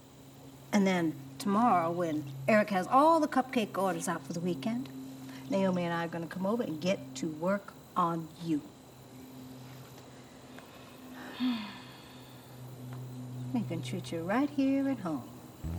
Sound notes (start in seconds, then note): 11.2 Beverly sighs; 15.6 soft plucking music